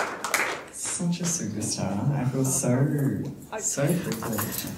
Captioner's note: audience applause